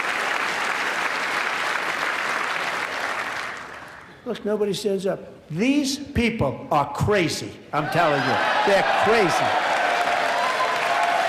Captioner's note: applause